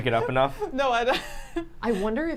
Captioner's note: laughs